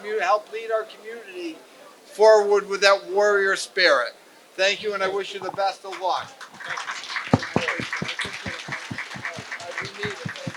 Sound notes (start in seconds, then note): 5.8 applause